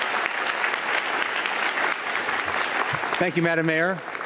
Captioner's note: applause